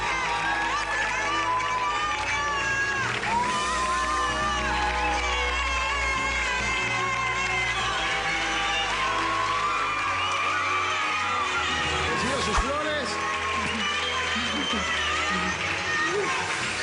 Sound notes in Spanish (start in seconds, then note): 3.8 Siguen los vítores y aplausos; 14.5 Aclamaciones; 14.5 Aplausos